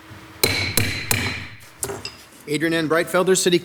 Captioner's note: gavel bangs